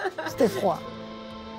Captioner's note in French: rire